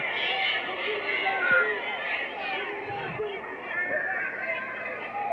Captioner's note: audience shouting